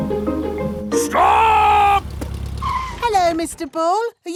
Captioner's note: brakes squeal